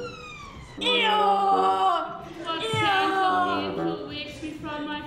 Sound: donkey breys

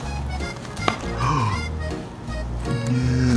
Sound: gasp

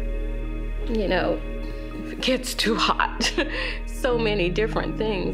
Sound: laughing

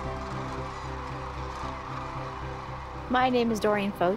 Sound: crane song

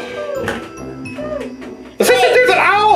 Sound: owl sound

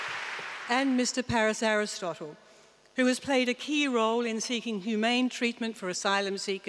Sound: applause

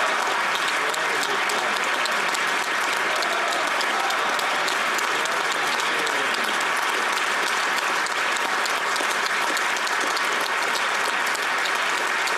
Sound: applause

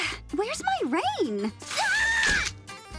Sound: screaming

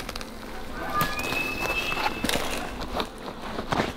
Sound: elk Bugling

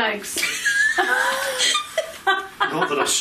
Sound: laughing

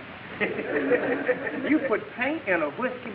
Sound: audience laughing

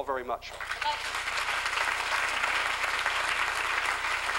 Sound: applause

